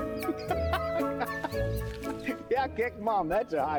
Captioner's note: laughing